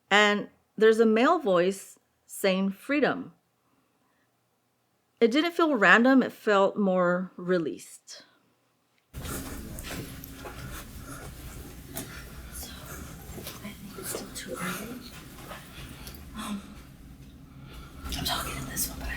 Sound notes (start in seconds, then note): 9.0 footsteps